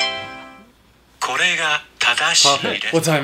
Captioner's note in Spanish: Japonés